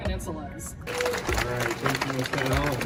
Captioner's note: crowd claps